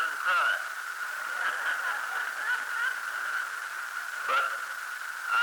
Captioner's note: laughter